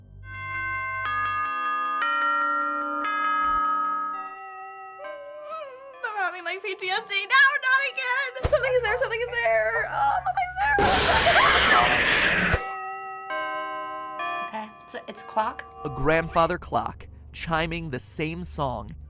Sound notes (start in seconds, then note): 0.2 clock chiming; 5.4 whimpering; 10.8 Freddy snarling; 10.8 squealing; 12.9 clock chiming